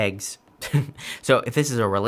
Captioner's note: chuckles